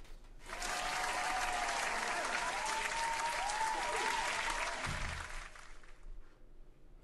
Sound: audience applause

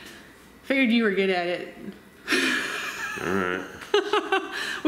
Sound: laughs

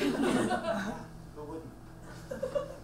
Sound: audience laughs

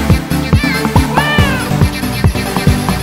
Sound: ✨meow✨

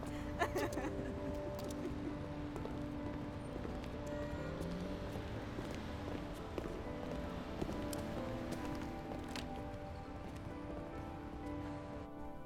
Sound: laughing

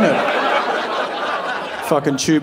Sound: audience laughing

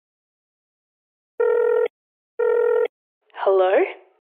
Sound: dialling

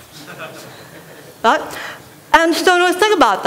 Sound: laughter

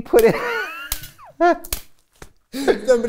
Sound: laughter

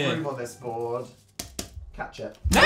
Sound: pat pat

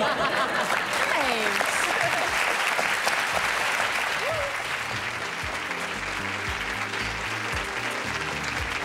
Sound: applause

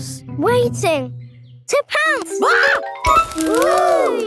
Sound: screams

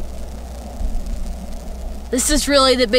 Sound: light buzzing sound

